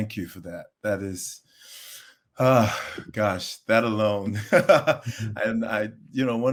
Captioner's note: laughs